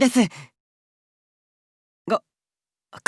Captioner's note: silence